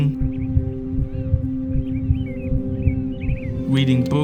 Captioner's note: birds chirping